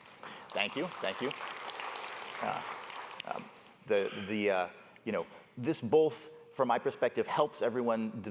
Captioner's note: applause